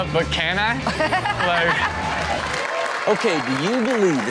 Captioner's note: everyone laughs